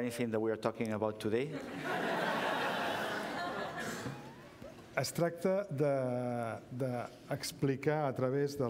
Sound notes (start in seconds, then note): 1.5 laughter; 8.6 speaking catalan